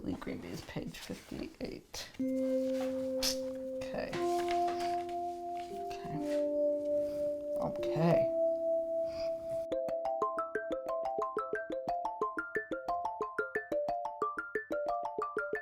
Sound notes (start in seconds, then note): 4.1 pages rustle; 10.1 upbeat theme music